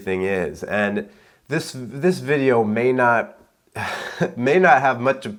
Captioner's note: chuckles